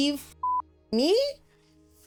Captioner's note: beep